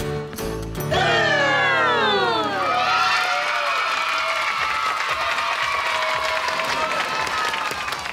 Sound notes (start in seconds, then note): 2.6 cheering